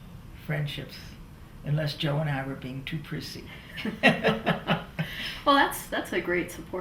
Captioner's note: laughs